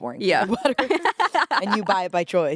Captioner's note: laughs